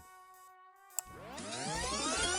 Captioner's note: click